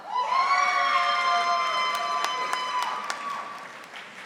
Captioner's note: audience applauding